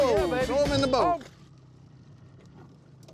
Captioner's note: splash